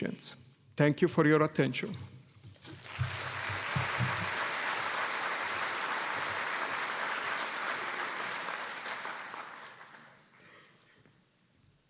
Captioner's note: applause